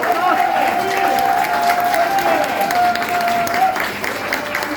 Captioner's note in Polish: aplauz